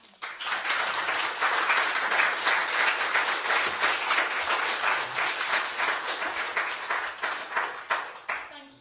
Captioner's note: applause